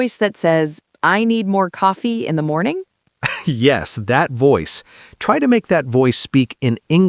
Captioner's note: laughs